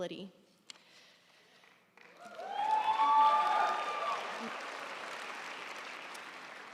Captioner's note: audience applauding; audience cheering